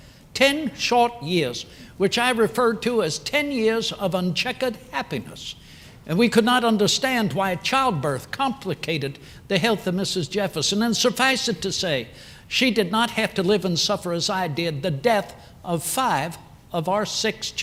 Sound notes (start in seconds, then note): none